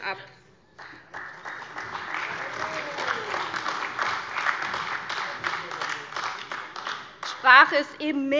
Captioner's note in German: Vereinzelter Beifall CDU, Beifall AfD